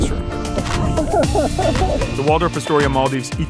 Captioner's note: chuckling